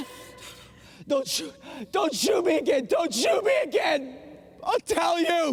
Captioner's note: sobbing